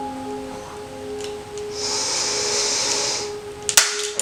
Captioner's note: inhales Deeply